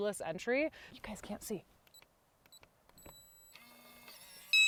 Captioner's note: beeps